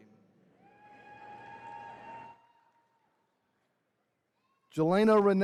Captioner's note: attendees cheering